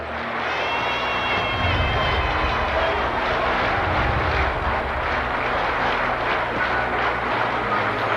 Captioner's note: applause